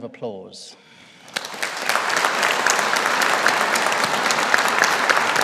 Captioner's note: audience applauding